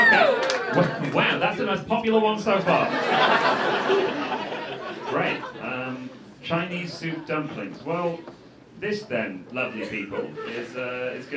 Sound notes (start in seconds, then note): 2.8 laughter